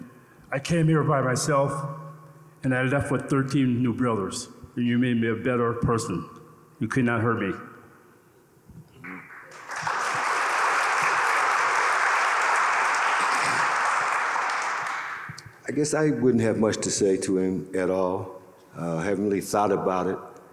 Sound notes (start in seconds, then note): 9.2 audience applauding